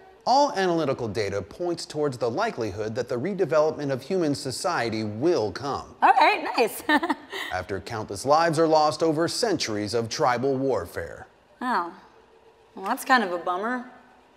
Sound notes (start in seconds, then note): 6.6 laughs